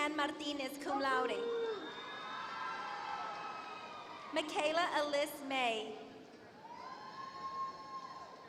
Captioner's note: applause